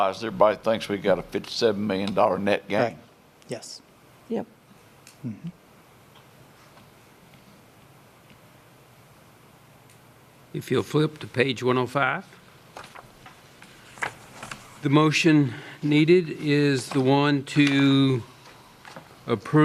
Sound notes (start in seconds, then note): 7.8 A pause